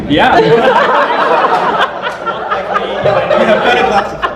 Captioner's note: audience laughter